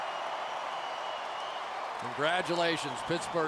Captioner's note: cheering